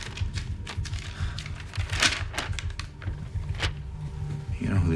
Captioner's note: paper crinkles